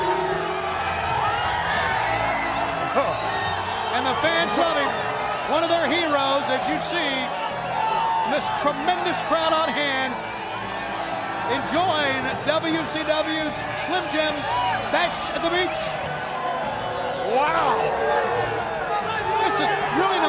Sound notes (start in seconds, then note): 3.5 crowd cheering